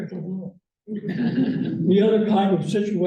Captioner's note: laughter